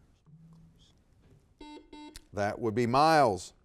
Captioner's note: buzzer beeping